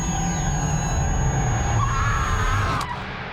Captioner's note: screams